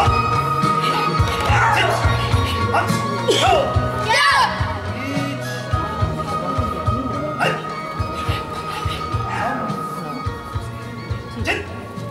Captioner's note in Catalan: Música i un ca que borda